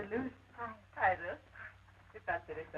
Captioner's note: Esperanza speaks Spanish